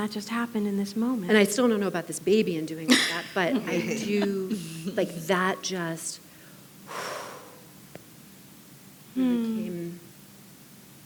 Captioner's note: exhales